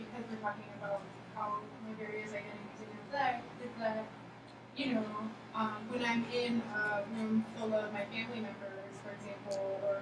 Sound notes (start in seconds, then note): 1.9 speaking softly